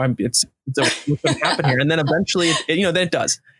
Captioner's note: laughing